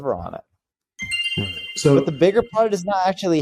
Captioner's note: bell chimes